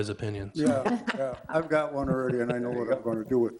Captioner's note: people laugh